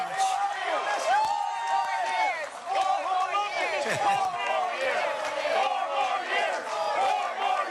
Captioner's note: cheering and applause